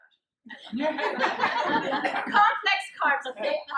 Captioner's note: laughter